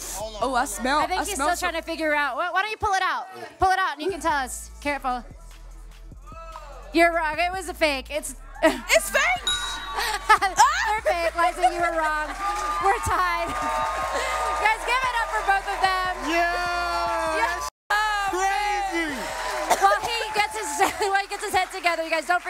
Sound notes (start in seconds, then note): 10.0 laughs; 13.6 cheering